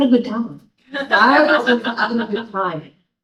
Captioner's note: audience laughing